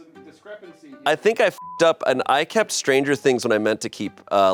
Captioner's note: beep